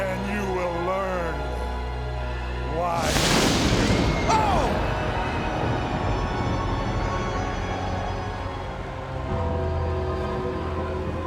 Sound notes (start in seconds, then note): 2.9 lightning cracks; 5.2 dramatic music continues